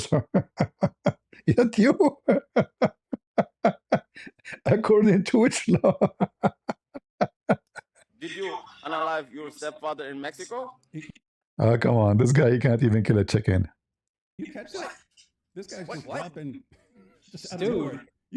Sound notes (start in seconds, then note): 1.8 ketawa